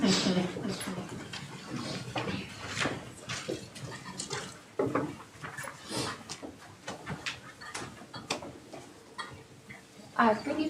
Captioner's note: chattering